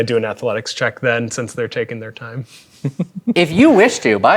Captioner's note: chuckles